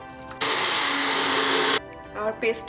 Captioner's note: blender runs